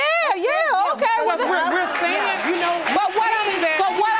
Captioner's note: all clamoring